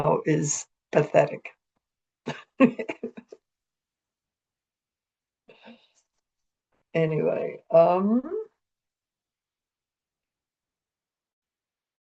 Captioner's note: chuckles